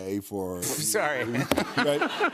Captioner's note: laughter